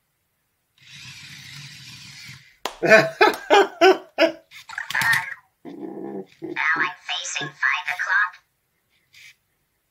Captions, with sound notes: [Slow Clap] Done, now I'm facing five o'clock.